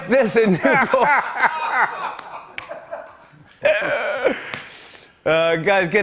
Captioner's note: laughter